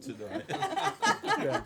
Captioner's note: laughter